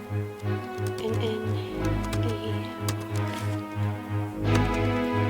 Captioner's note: Lanae mumbles